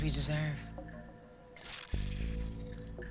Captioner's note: trilling